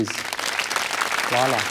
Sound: audience applauds

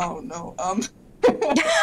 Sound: laughter

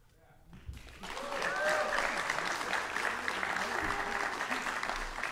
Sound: audience applauding

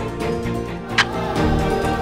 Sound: kisses

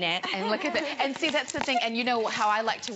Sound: laughter

